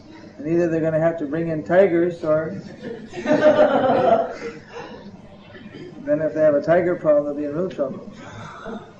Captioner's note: laughter